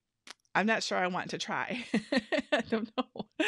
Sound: laughs

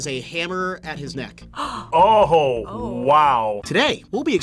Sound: gasps

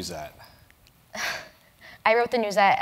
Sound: laugh

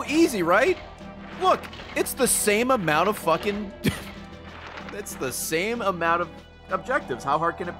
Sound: laughs

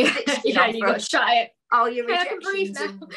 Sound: laughs

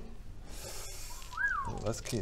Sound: whistle

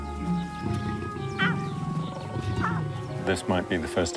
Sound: cubs growling

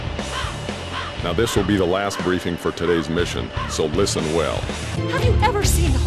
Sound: dispassionate delivery

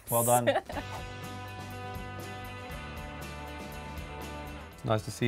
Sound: melodic pop music; air whooshes

